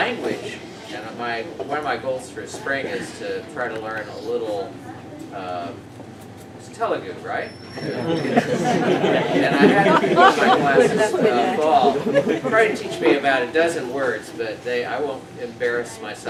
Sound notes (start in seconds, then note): 7.8 laughter